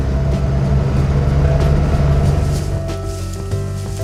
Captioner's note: car engine revving